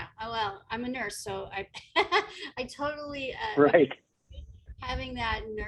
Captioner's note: chuckles